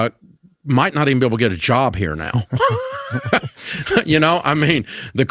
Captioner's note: laughs